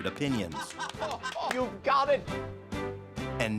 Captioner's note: laughs